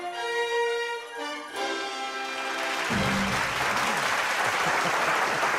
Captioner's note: applause